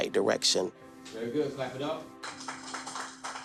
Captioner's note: applause